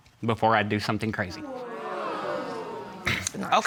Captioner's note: audience gasps